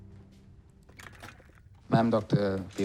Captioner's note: chair creaking